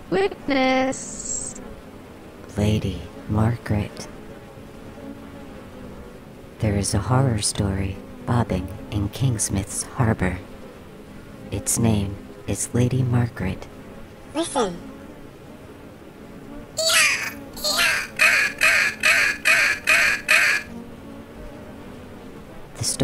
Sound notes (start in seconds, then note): 14.2 small buzzing voice; 16.8 A seagull cries